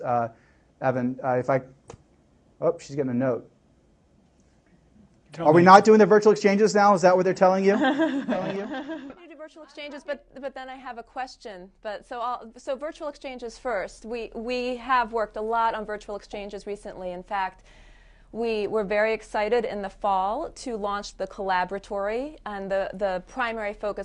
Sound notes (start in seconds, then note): 7.6 laughter